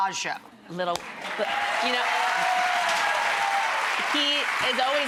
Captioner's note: audience applause